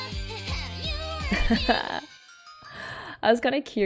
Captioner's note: laughs